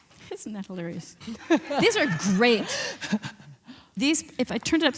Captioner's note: laughs